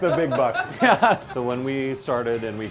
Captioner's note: laughter